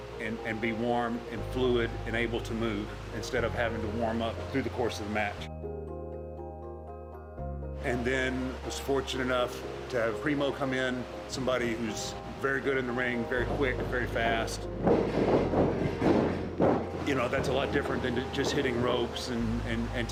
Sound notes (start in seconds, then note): 15.0 ring thudding